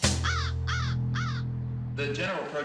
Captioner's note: crow cawing